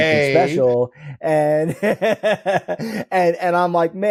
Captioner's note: laughs